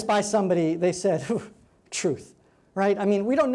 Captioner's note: scoffs